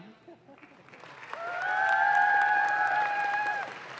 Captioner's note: audience claps